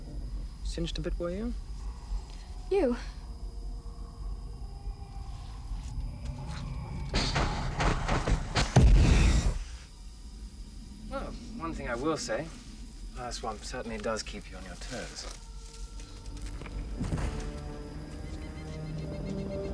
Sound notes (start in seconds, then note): 4.5 wailing, faint; 6.8 popping